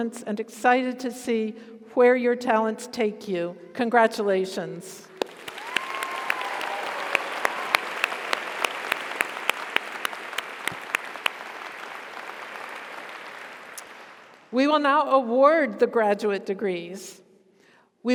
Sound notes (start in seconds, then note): 5.2 audience applauds; 5.3 audience cheers